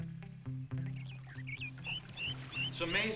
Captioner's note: birds chirping